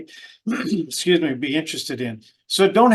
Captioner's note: coughs